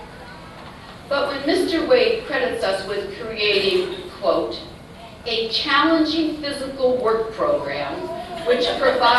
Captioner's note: laughter